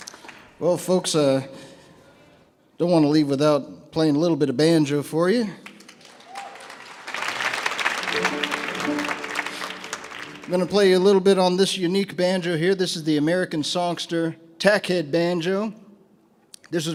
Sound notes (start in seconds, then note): 5.7 audience applauds; 8.0 enchanted banjo music